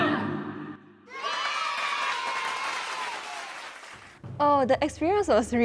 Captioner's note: cheers